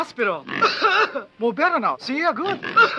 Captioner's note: pig snorting; Tommy coughs; pig snorting; Tommy coughs